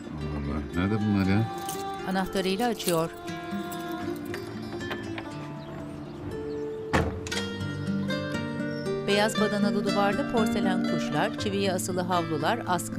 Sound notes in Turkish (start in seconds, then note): 1.5 Anahtar sesi; 6.9 Kapı açılma sesi